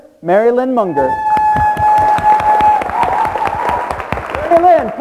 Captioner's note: everyone clapping